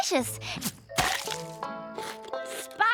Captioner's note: chomp!; gulp!